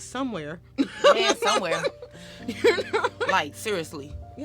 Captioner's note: laughs